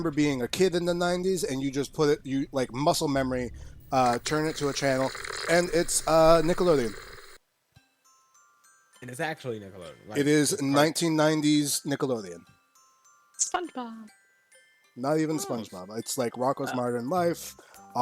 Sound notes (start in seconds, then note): 3.8 TV channel tuning sound